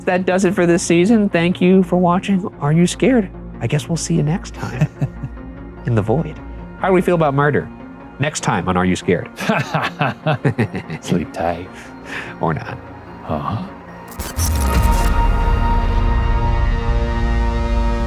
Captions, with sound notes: That does it for this season. Thank you for watching "Are You Scared?" I guess we'll see you next time in the void. How do we feel about murder? Next time, on "Are You Scared?" (laughing) - Sleep tight. - Or not. - Huh? (haunting electronic music)